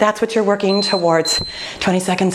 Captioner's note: timer beeping